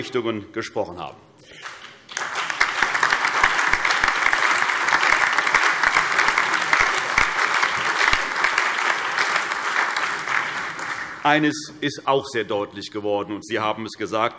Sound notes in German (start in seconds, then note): 1.5 Allgemeiner Beifall